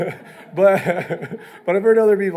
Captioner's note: laughs